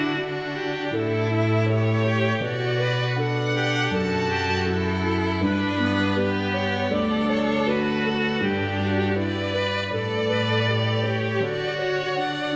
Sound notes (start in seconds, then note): none